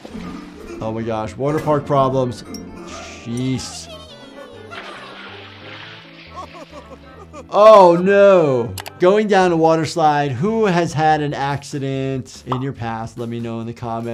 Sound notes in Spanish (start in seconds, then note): 4.4 salpicaduras de agua; 6.2 Lumpy se ríe